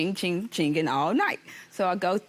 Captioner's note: mimicking phone notification